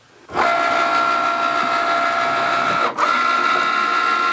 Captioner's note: Cricut humming